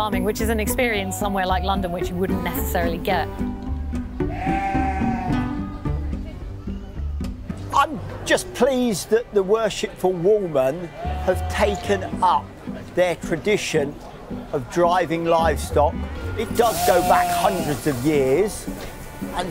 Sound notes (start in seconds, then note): 4.2 sheep bleating; 4.6 pizzicato string music